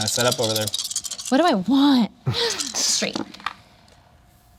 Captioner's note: laughs